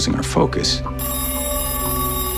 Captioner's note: telephone rings